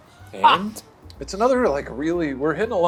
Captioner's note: laughs